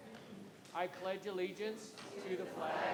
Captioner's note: crowd